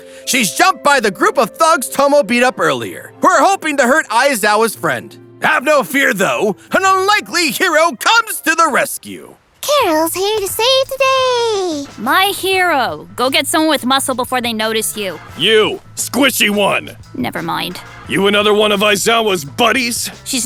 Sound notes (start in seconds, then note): none